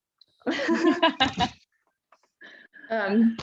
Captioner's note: laughing